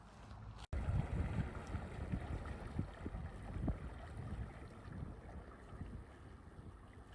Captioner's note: canal boat engine noise